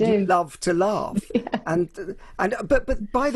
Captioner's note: laughing